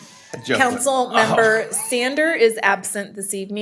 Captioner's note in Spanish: risas